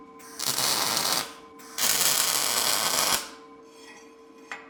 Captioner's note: metal sizzling